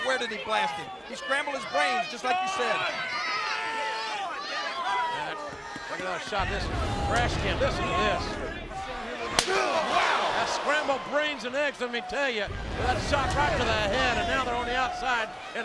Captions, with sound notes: But where did he blast him? He scrambled his brains, just like you said. (fans cheering) Get another shot. Listen to this. Wow! That's scrambled brains and eggs, let me tell you. That shot right to the head and now they're on the outside.